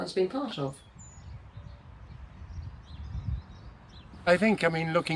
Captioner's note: birds chirping